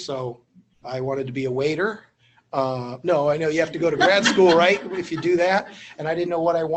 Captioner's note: laughter